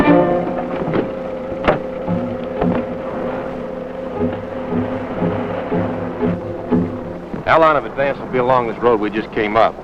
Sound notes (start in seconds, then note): 0.2 jeep engine whizzing; 0.9 upbeat music; 7.0 anxious music